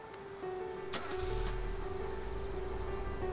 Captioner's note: Engine starts